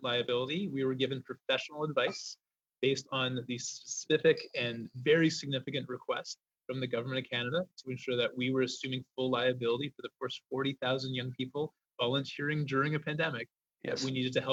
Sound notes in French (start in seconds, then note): 2.8 voix de l'interprète